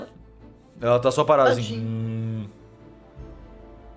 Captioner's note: mooo